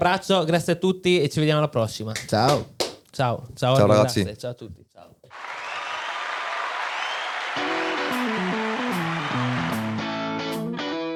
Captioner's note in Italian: Applauso